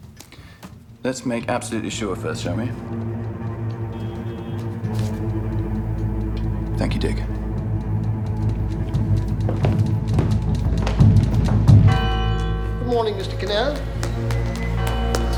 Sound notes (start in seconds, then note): 3.8 ominous music; 11.7 tower bell ringing